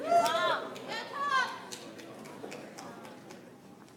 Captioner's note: audience applauds